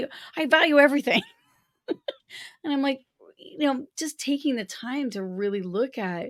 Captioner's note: laughter